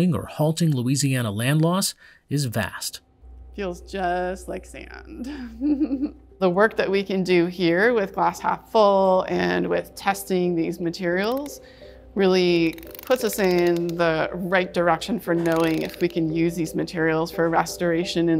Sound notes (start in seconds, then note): 5.2 laughs